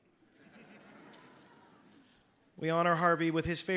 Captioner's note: audience laughing